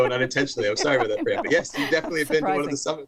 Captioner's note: laughter